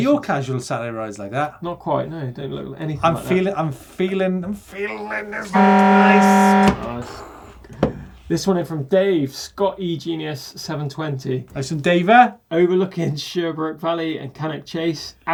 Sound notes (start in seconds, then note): 5.4 horn blaring